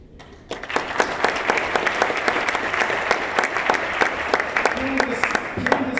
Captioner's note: applause